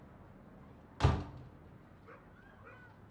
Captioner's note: door slams